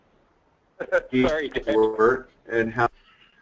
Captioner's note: laughter